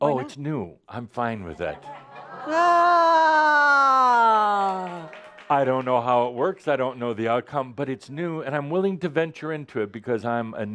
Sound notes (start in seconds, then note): 4.1 audience says “Ahhh” also and some applause